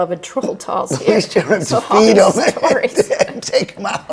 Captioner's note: laughing